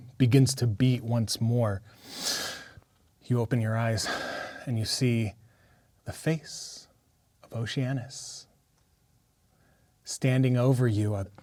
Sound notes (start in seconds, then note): 1.9 inhales